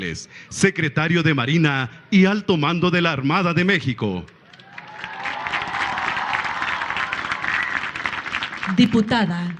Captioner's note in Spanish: aplausos